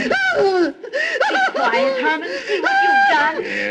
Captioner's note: cries out